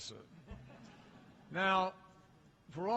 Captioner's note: laughter